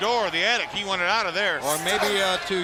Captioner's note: crowd chatter